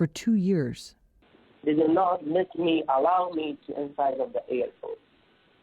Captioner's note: through translator